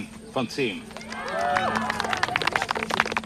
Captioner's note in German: Applaus